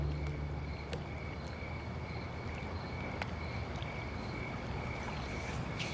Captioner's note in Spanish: Ruidos de la noche